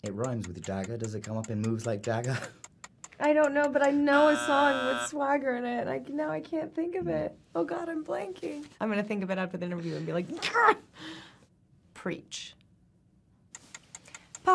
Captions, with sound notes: - It rhymes with Jagger, . Does it come up in "Moves Like Jagger"? - I don't know, but I know (timer buzzing) a song with swagger in it. Like, now I can't think of it. Oh god, I'm blanking. I'm gonna think of it after the interview and be like, "gah". Preach. (timer ticking)